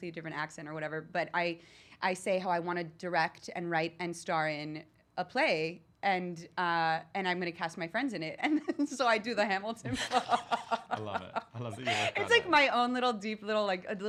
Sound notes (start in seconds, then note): 9.9 laughs